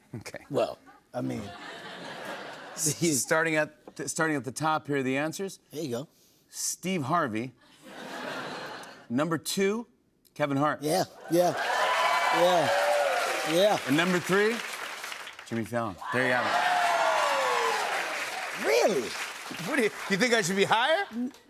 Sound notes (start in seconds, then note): 1.4 laughter; 7.8 laughter; 11.2 cheers and applause